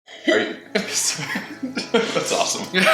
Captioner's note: laughter